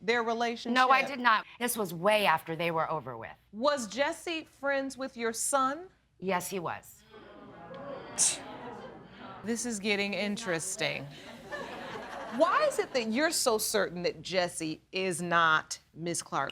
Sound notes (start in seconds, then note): 8.2 scoffs; 8.9 audience laughs